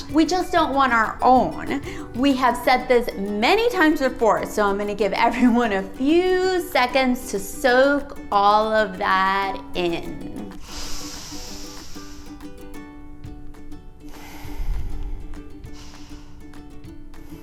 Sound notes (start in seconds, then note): 10.6 inhales; 14.0 exhales